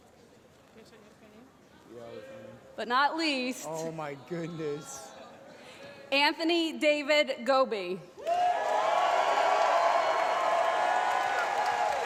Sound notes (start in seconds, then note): 8.2 applause